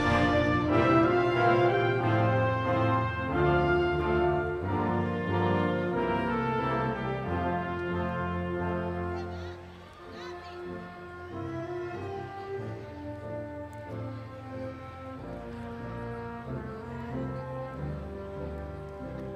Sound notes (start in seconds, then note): 9.9 audience members exclaiming; 15.5 triumphant music continues